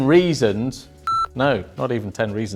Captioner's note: computer beeps